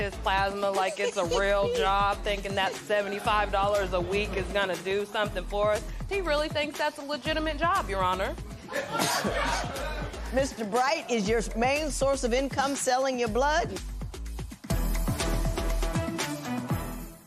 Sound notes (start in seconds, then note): 8.6 laughter